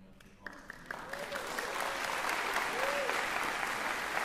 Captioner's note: cheering, applause